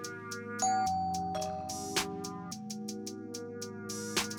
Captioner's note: doorbell rings